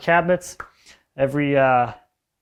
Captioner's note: hands clapping softly